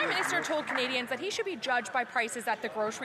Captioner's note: applause